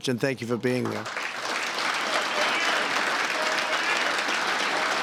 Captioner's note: applause